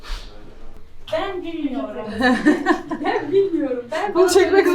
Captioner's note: laughs